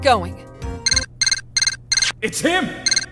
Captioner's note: transceiver beeps!